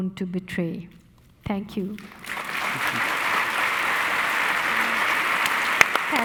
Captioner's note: audience applauding